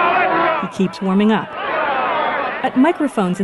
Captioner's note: random outcries